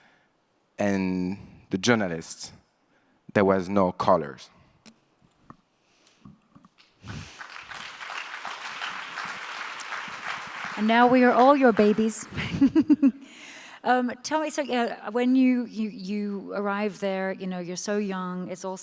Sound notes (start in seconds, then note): 6.8 audience applauds